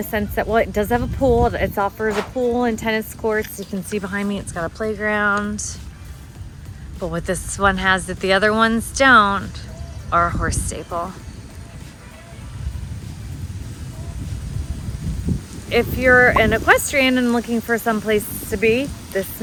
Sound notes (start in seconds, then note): 12.7 rain pattering; 12.7 thunder roaring